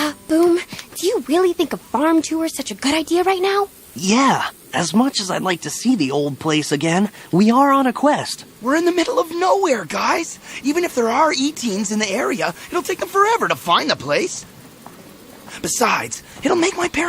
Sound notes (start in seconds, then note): 12.8 rustling